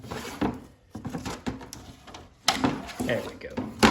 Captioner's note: cardboard sounds